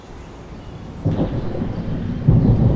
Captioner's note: thunder